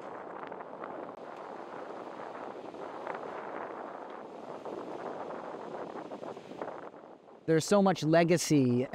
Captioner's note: wind